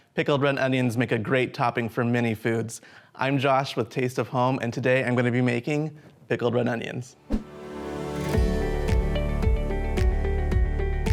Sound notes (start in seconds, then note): 7.2 air whooshes; 7.2 upbeat music